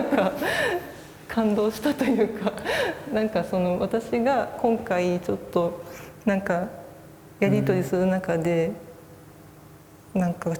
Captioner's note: laugh